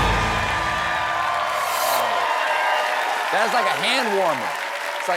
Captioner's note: cheers and applause